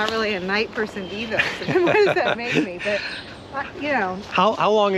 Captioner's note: laughing